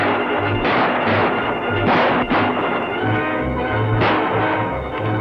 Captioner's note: guns fire repeatedly; frenzied music